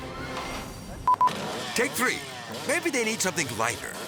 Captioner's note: camera beeping